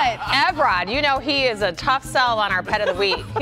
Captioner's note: laughter